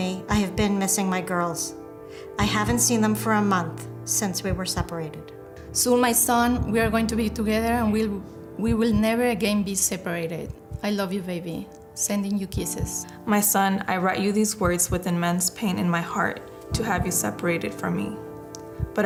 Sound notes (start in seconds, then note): none